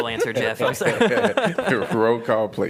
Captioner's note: laughter